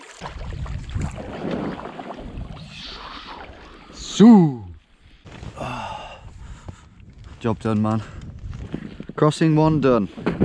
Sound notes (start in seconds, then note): 0.0 water softly whooshes; 3.8 softly mimics water whooshing